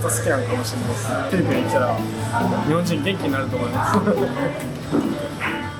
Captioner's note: laughs